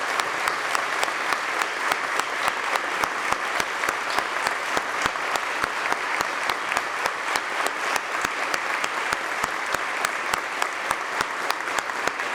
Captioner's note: applause